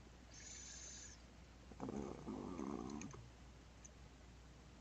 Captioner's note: mouse clicking